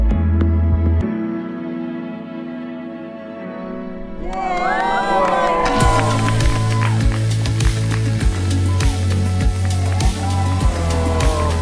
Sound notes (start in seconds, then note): 4.4 all cheering and applauding; 5.7 triumphant music